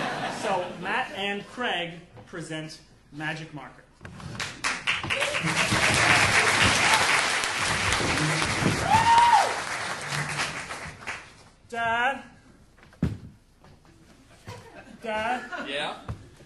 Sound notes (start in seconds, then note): 0.0 audience laughing; 4.4 audience applauding